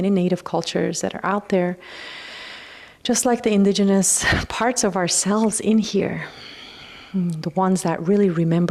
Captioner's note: sighs